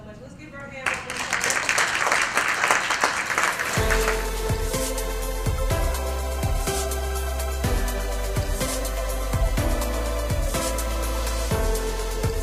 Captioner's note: applause